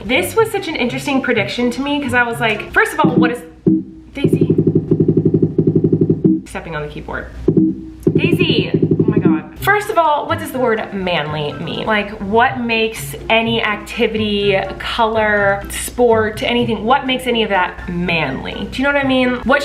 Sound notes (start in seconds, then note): 4.2 fast bumping